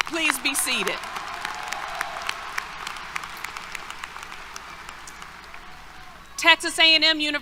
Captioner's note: applause, Cheers